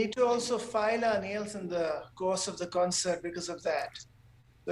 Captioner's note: none